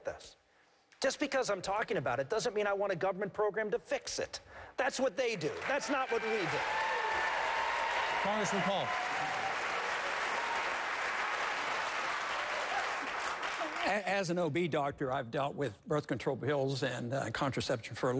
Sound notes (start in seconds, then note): 10.3 applause